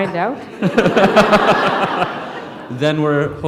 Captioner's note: laughter